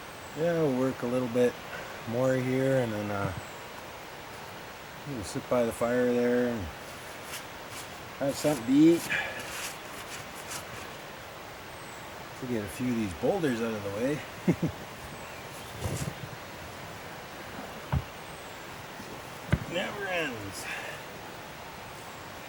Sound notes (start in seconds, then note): 14.3 laughter